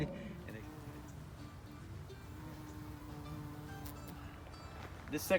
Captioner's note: bumblebee buzzing